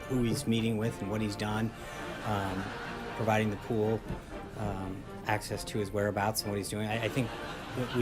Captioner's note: laugh track; raucous laugh track